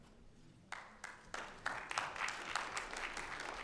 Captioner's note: audience applauds